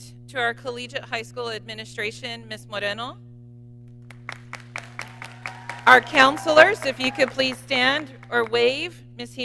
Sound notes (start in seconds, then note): 4.0 audience clapping